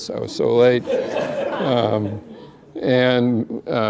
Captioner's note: laughter